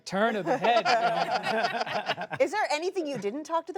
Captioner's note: laughter